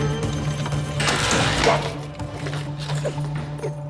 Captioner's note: door buzzes